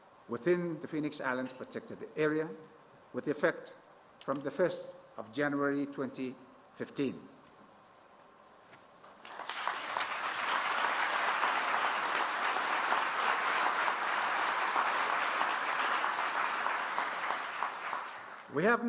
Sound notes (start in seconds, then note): 12.4 applause